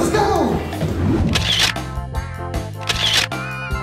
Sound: camera shuttering

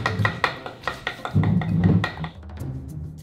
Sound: hammer tapping

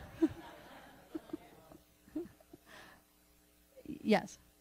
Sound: laughter

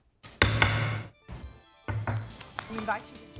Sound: gavel

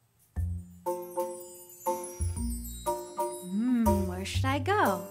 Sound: cheerful music; chimes

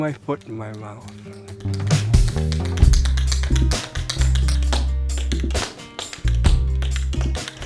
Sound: mellow music; feet tapping

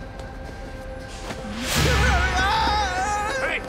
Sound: screaming

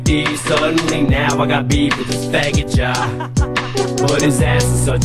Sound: ha-ha-ha-ha

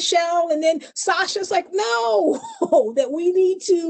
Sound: chuckles

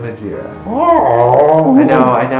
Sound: groans of complaint

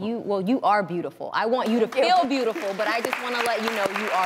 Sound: applauding

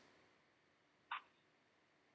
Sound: 4.5s of silence

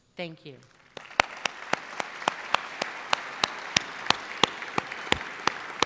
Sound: applause

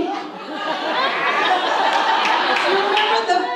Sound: audience laughs

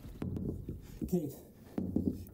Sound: knocking on door

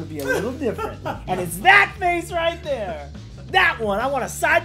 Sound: laugh

